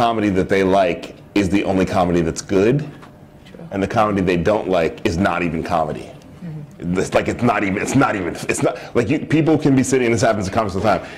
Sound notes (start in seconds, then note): none